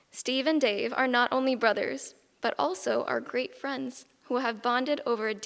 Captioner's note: none